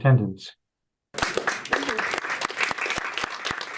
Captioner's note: applause